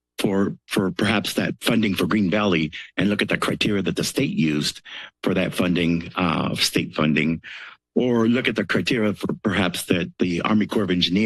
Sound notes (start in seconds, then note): none